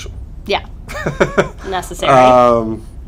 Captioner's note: laughter